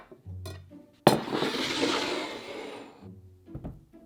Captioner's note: bowl sliding